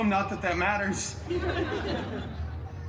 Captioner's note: guests laughing